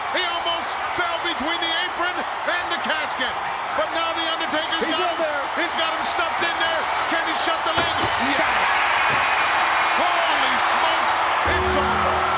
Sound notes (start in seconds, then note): 8.9 audience cheers; 9.2 bell rings